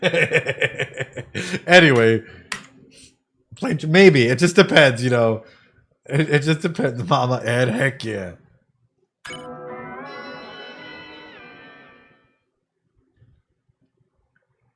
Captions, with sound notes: (laughs) Anyway, maybe, it just depends, you know. It just depends, Mama, and heck yeah.